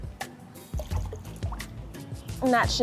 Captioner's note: water splashing